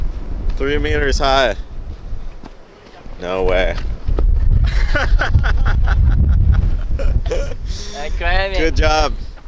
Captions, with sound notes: 3 meters high No way (both laugh) I climb it! Good job!